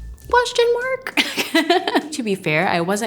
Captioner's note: laughs